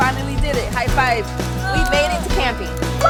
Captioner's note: girl cheering